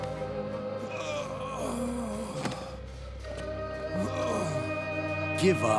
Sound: groaning

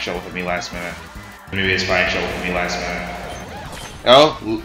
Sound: reverb

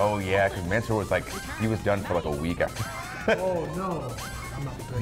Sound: laugh

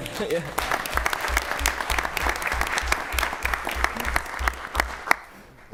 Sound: applause

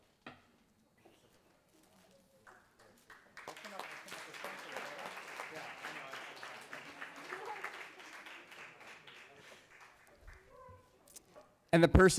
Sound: applause

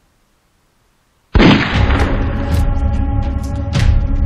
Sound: gun Shots Again

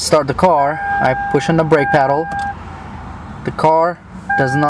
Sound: car beeps

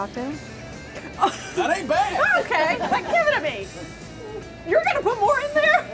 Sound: laughter

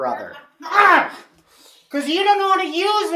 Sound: grunting

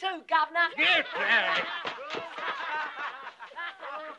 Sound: boys laughing

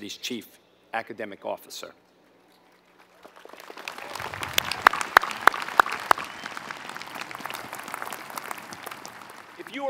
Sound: applause

